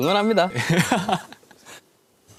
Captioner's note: haha